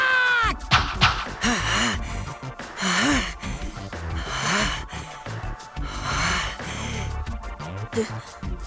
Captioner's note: very strained breathing; slightly strained breathing